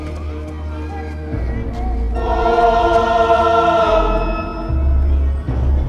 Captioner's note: children laughing, shouting in distance